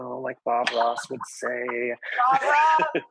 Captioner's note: laughs